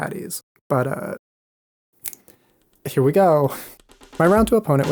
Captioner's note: snaps fingers